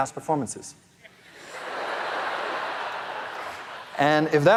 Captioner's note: audience laughing